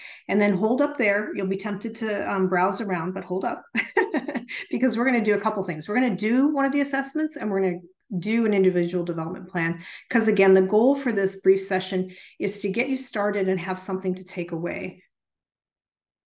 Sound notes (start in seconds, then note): 3.8 chuckles